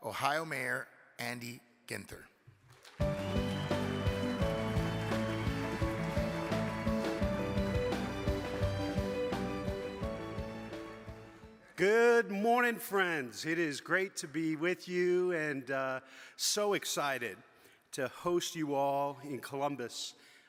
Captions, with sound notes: Ohio Mayor, Andy Ginther. (audience claps) (upbeat music) - Good morning, friends. It is great to be with you. And so excited to host you all in Columbus